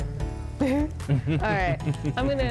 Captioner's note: both chuckle